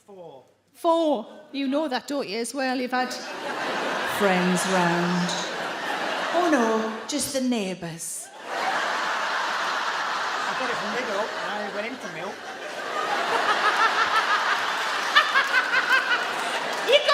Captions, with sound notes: - Audience Member Four. - Four. You know that, don't you, as well? You've had friends round. (audience laugh) Oh no, just the neighbours. (audience laugh) - I got it from Lidl and I only went in for milk. (audience laugh) (Sarah laughs)